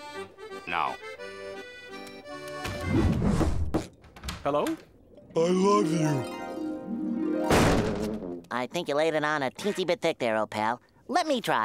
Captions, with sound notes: No. Hello? I love you. [slamming] I think you laid it on a teensy bit thick there, old pal. Let me try.